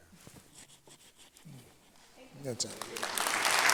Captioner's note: applause